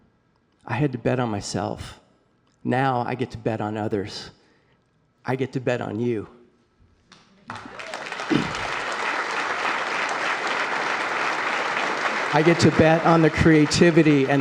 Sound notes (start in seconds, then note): 7.4 applause